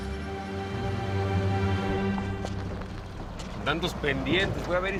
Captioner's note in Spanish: Ruido del vehículo